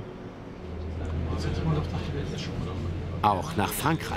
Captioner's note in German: Gespräche im Hintergrund